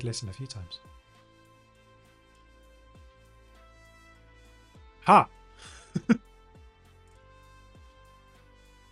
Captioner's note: laughs